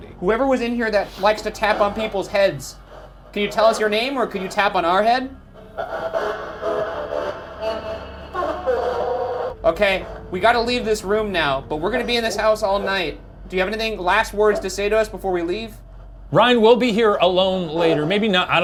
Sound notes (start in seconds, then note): 5.5 device buzzes and chatters